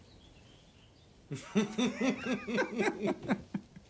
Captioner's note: both laughing